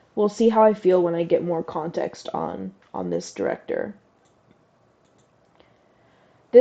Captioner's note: none